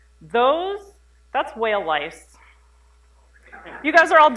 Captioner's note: laughter